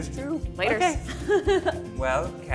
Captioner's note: laughs